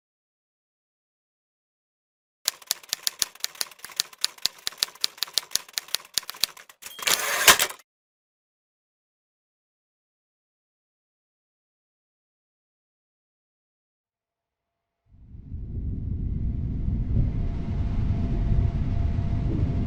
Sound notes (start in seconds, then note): 2.4 typewriter clickity clackity; 6.8 typerwriter dings; 15.5 low rumbling